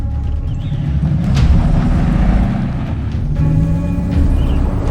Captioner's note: engine revs